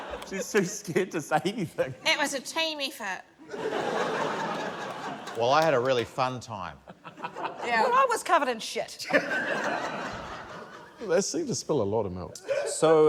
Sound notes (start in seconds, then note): 9.0 laughter